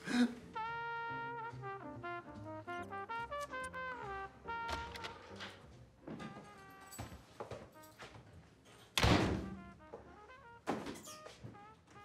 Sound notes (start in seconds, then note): 0.1 smooth jazz music; 4.7 door opens; 9.0 door closes